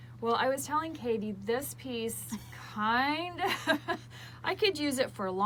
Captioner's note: laughs